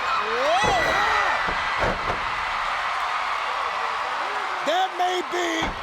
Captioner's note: Scott thuds